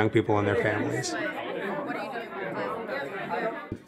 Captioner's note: chatter